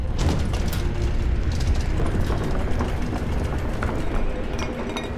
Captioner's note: banging and rattling